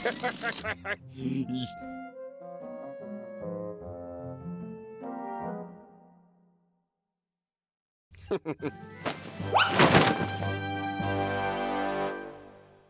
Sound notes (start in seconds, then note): 0.0 laughing; 8.2 chuckles; 9.5 curtains thud